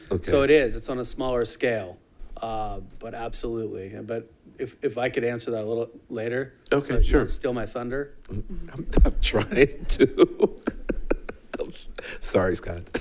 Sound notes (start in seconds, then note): 9.2 laughing